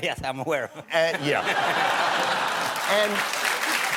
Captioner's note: laughter; cheers and applause